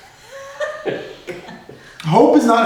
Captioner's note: laughs